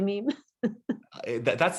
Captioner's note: laughs